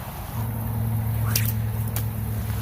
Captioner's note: splash; sling whips; splash